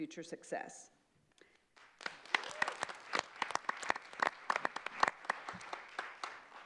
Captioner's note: clapping